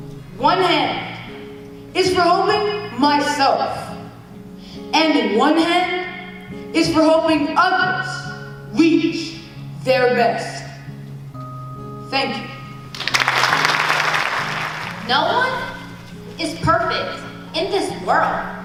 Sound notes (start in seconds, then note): 12.9 clapping